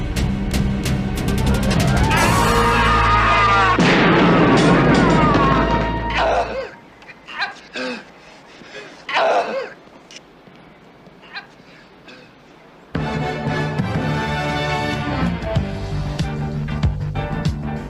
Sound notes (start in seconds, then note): 2.0 man screams followed by a gunshot on TV